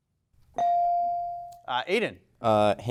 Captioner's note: bell dings